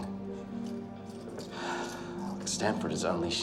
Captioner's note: sighs